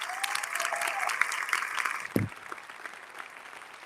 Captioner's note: all applauding